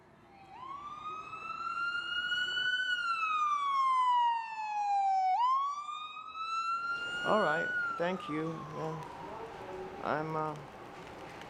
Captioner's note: sirens